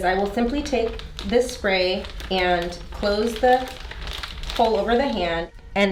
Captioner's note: plastic crinkling